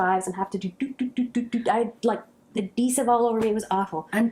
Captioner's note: sound effect do do do